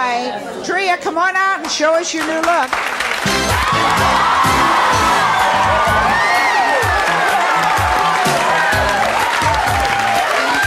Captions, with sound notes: Tria, come on out and show us your new look. (cheers) (upbeat music)